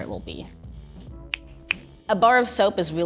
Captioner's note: slow snap